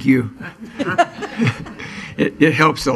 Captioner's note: laughing